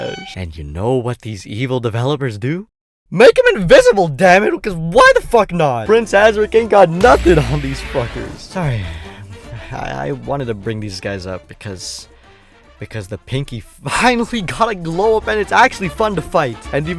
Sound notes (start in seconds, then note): 8.6 sighs; 12.2 inhales